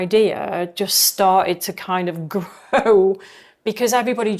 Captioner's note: chuckling